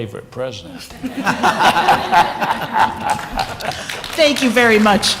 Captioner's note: laughter